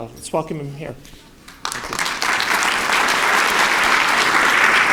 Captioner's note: applause